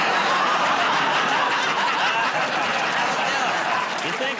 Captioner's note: laughter